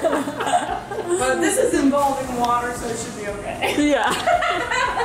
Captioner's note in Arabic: يضحك